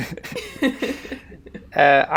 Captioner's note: all laugh